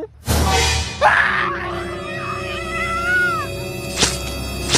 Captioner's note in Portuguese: gritos